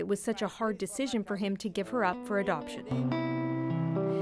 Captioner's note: speaking French